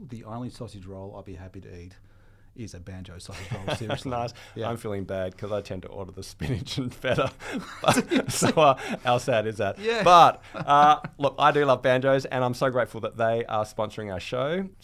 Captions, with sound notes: the only sausage roll I'd be happy to eat is a Banjo sausage roll, see? That's nice. Yeah, I'm feeling bad, I tend to order the spinach better. (laughing) But, so how sad is that? But, look, I do love Banjos, and I'm so grateful that they are sponsoring our show.